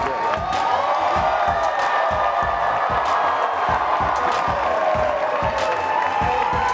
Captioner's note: attendees applauding and cheering